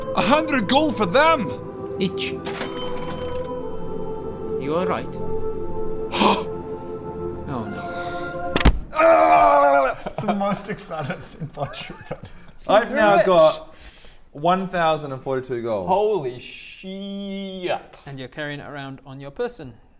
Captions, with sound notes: 100 GOLD FOR THEM?! each *KA-CHING!* Are you alright? hgh Oh no *THUD* HELELELELELELELELELELELE That's the most excited I'm seen Bodger ever - I've now got - He's rich 1042 gold Holy shiiiiiiiiiiiiiet! And you're carrying it around on your person